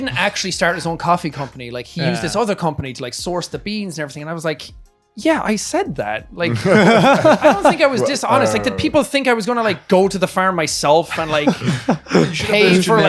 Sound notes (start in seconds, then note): 6.5 laughing